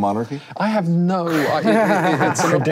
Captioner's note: laughing